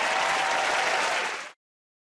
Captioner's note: cheers and applause